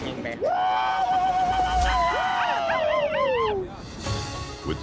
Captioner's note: cheering